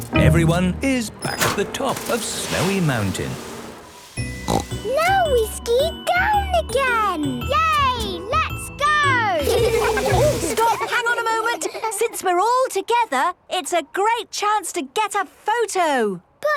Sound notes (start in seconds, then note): 4.4 snorting; 9.4 laughter